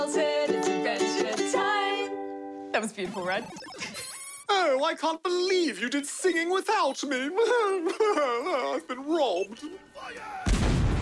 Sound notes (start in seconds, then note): 7.2 sobs